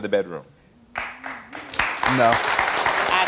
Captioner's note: audience applauds